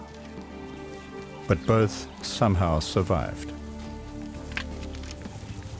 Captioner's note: animals calling